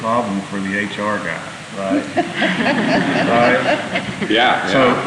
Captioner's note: laughter